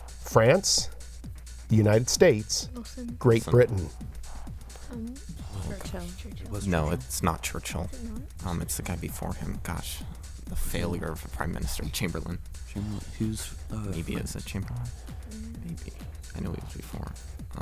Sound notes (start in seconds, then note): 4.0 wispering